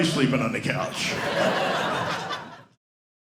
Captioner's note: audience laughing